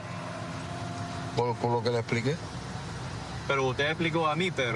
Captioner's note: speaking spanish